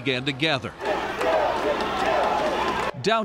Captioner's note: crowd chanting